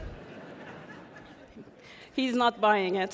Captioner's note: audience laughing